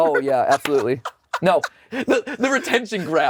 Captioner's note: Anthony laughs